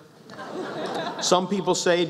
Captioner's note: laughs